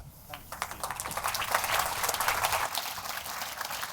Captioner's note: applause